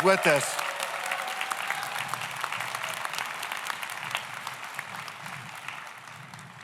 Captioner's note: audience cheers; audience applauds; laughs